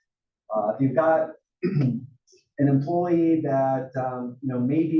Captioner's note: cough